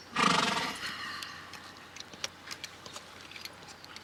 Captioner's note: horse whinnying